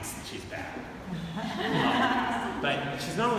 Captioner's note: audience laughing